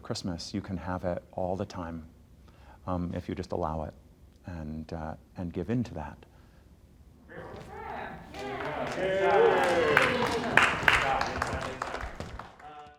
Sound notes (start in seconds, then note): 7.3 group applauding